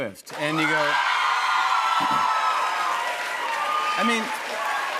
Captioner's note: cheers and applause